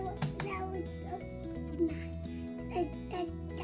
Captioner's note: babbling